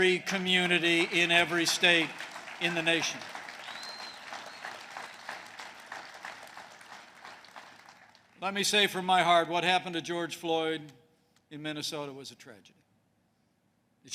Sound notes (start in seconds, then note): 3.2 applause